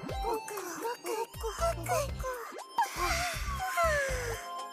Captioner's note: gulp